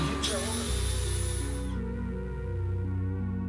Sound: person speaks in foreign language; screw driver whirring; gentle music

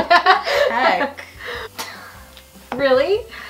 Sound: laughing

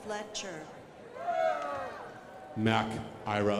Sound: crowd applauding

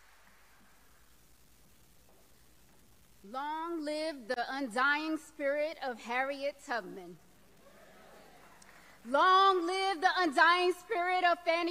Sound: applause

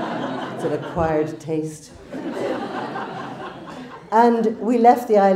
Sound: crowd laughs

